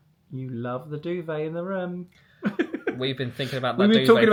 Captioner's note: giggles